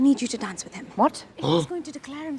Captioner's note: Trixie gasps